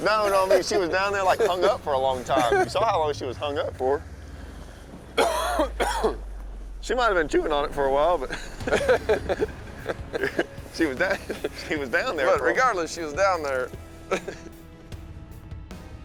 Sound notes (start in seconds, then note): 9.0 laughs